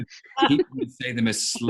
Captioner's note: all chuckling